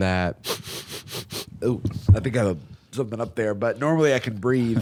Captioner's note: inhales sharply